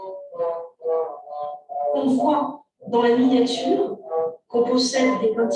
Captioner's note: non-english speech